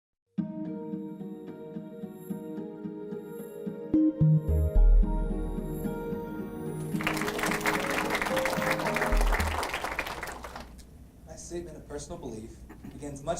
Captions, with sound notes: (light music) (audience applauding) - My statement of personal belief begins